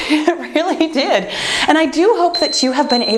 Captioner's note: timer beeps